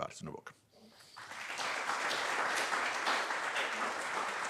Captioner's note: applause